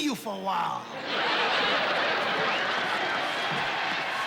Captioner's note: laughter